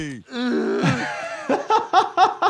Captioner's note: Stewie groaning; laughing